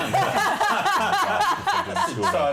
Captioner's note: laughter